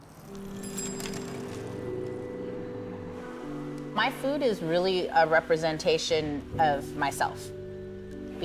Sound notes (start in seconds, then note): 0.3 bell ringing; 0.3 uplifting music